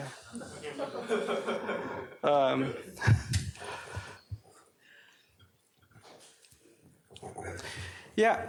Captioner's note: laughter